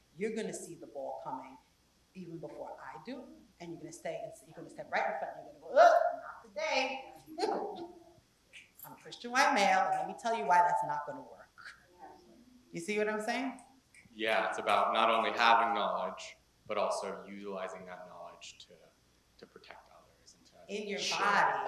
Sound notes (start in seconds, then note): 7.3 laugh